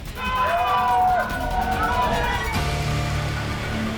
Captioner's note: cheering